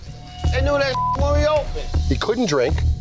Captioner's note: beep